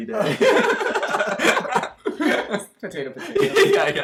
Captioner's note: both laughing